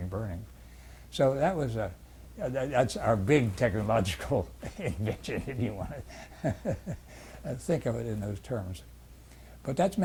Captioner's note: laughs